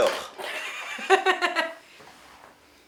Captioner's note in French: rires